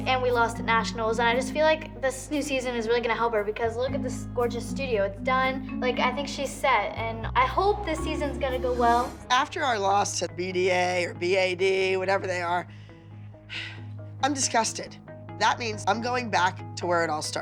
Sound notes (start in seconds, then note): 13.5 sighs